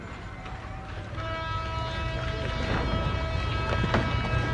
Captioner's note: horn blowing